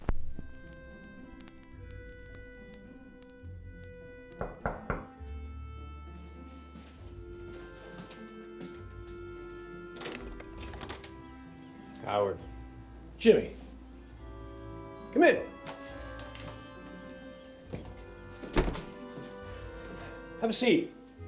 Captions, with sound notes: (soft classical music) (knocking on door) Howard. - Jimmy. Come in. Have a seat.